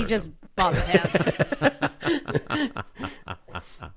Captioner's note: laughter